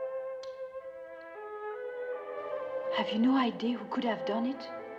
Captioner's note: nail Clippers Clicking